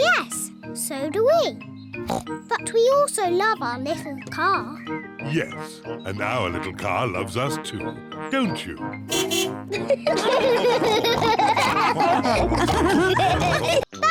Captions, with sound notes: Yes, so do we. (SNORTS) But we also love our little car. Yes, and our little car loves us, too. -Don't you? -(CAR HORN BEEPS) (ALL LAUGH)